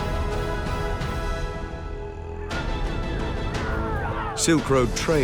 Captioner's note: man vocalizing